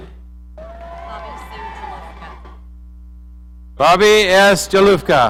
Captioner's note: audience cheering